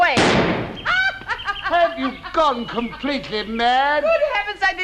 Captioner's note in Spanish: Hedda se ríe